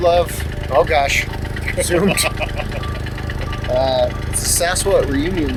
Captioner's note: laughing